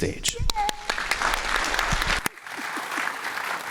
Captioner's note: applause